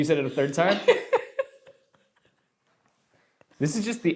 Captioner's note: laughs